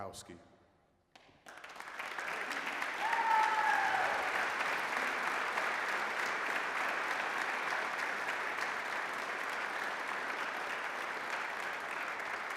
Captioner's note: applause